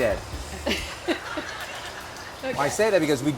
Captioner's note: laughing; audience laughing